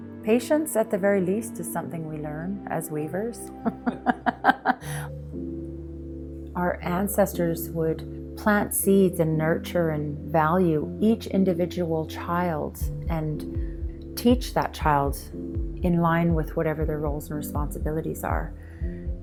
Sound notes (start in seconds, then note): 3.6 laughing